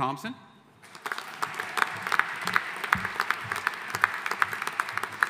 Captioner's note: audience applauding